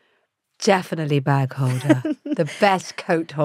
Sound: Giovanna laughs

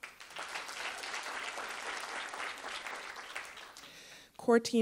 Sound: attendees applauding

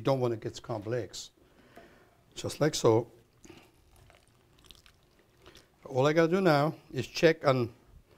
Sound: pouring

